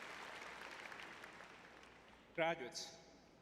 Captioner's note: applause